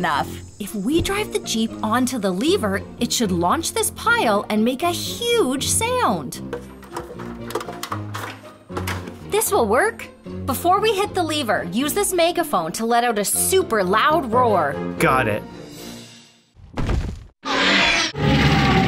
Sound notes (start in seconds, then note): 6.5 clanking; 16.1 crunching sound; 17.4 screeching